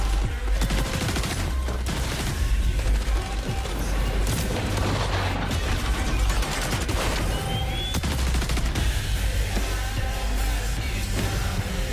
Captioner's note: gunfire